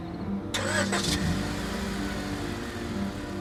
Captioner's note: car revs